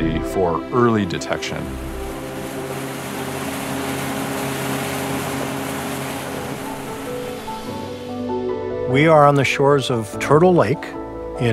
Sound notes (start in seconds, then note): 4.5 boat motor; 7.6 soft music